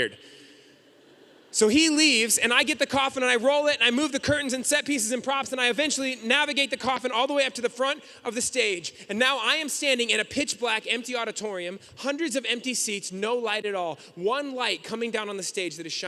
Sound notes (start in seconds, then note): none